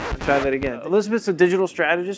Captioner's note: sound scratches